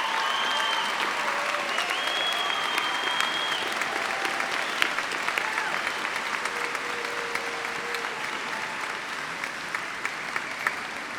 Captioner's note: applause